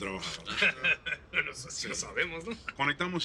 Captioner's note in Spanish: Risas